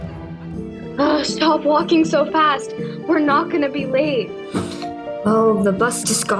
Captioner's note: groans breathlessly